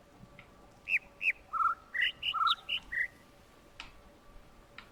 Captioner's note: overlapping birds chirping, ˥ ˥ ˩ ˧ ˩